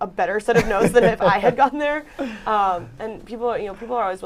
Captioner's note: laughter